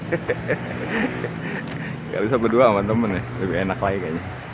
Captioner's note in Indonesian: tertawa